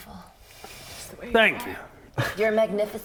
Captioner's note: whispering